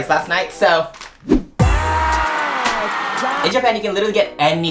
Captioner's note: crowd applause